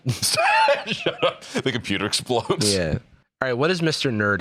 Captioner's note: laughs